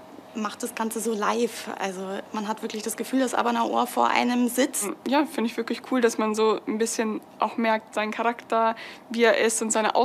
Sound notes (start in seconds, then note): 4.9 speaks in a foreign language